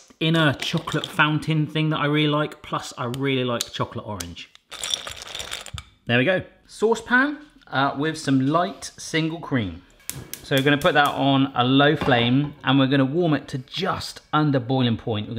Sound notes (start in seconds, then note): 4.6 clattering; 10.1 clicking